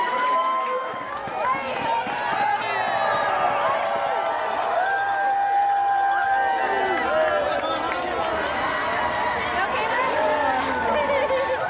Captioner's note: crowds cheering and clapping